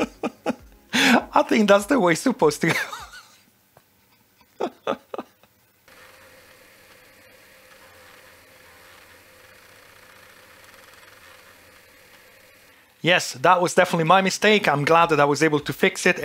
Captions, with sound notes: (laughing) I think that's the way supposed to go. (laughing) Yes, that was definitely my mistake. I'm glad that I was able to fix it